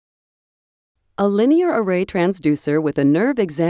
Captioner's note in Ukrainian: Голос за кадром